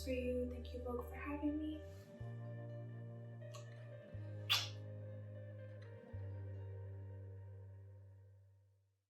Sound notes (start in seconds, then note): 4.4 blows kiss